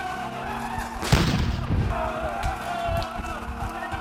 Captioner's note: gun fire